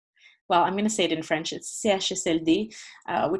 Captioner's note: speaking French